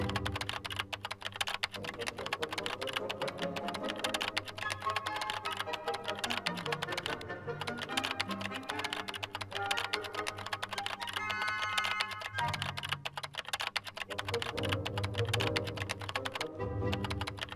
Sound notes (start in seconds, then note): 3.4 classical music; 3.4 keyboard tapping; 12.8 classical music; 12.8 keyboard tapping